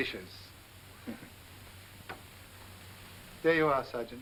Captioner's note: chuckles